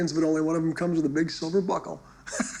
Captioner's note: laughing